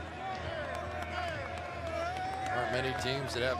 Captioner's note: cheering